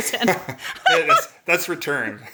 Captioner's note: laughs